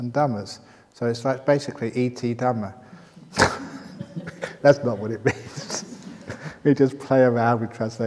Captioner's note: laughs